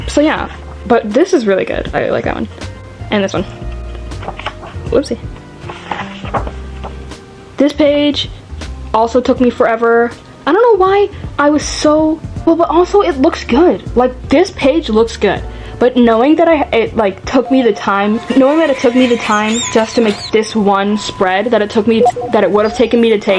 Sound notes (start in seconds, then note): 17.4 sound effects